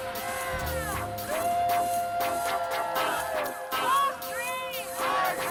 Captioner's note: crowd chanting